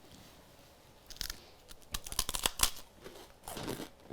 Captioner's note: crunching